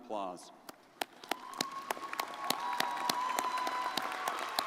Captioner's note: crowd applauding